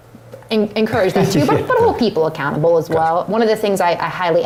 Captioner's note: laugh